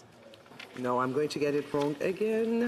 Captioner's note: speaking French